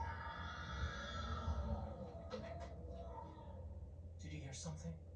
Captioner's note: a mysterious, yelling came calling from inside